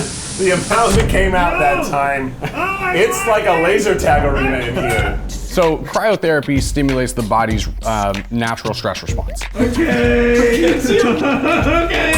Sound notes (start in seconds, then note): 4.6 screaming